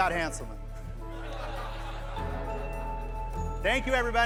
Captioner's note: laughter